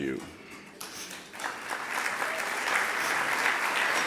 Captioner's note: applause